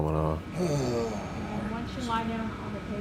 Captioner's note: sighs